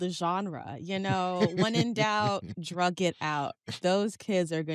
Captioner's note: laughs